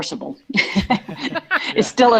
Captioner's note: laughs